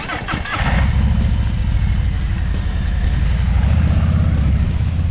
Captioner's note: motor cycle engine grumbling